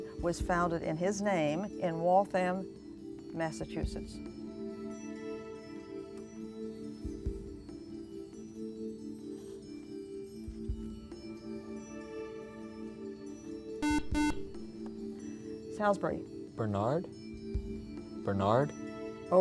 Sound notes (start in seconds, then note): 13.8 buzzer